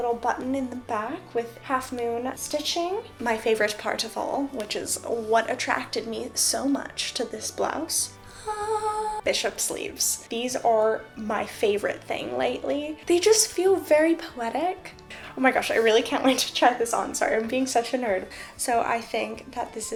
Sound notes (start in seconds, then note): 8.2 ahhhhh